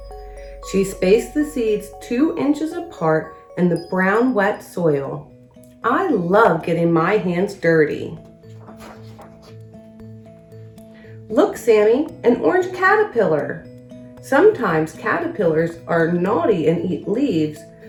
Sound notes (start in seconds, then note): 8.1 uplifting instrumental music; 8.2 pages shuffles